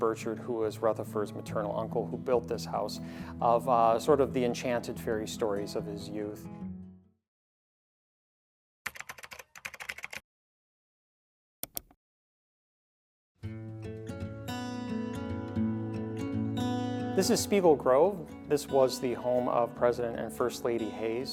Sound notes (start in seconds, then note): 8.8 keyboard clacking; 11.6 mouse clicking; 13.4 mellow orchestral music